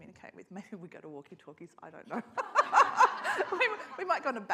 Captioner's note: laughs